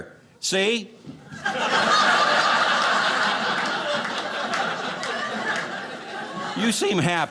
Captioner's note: audience laughing